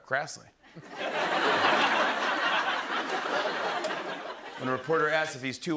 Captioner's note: laughter